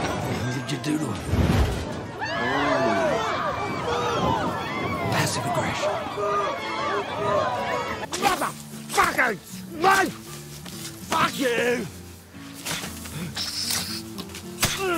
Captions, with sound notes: What did you do to em? [screaming] Passive aggression. Mother! Fucking! Snake! Fuck you! [hissing]